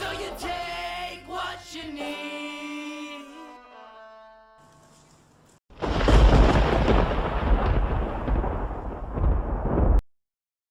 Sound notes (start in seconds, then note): 5.7 mischievous Thunder-Clap